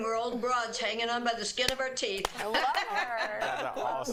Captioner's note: laughter